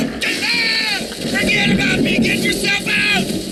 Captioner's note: bombs exploding